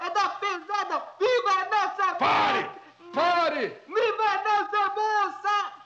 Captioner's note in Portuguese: gritos